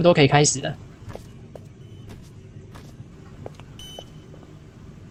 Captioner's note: the sound of wet footsteps is different